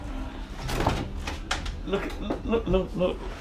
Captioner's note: door clicks